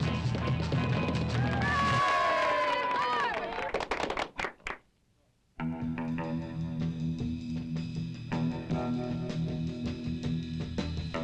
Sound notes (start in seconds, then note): 1.1 group cheers; 5.6 upbeat surfer music